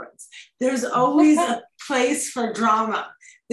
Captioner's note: laughs